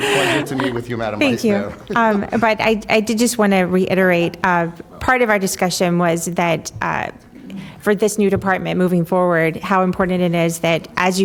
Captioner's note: laughter